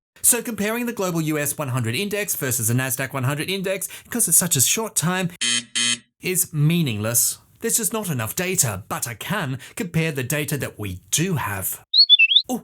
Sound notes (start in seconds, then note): 5.4 buzzer